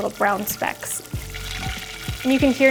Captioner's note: sizzling